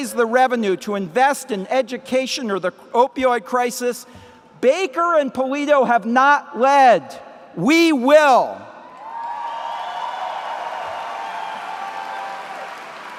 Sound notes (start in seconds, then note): 9.0 applause